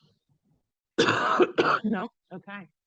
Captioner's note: coughing